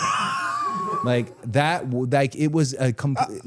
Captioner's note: Dallas laughs